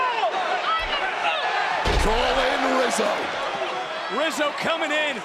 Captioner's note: yelling